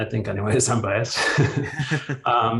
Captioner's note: both chuckles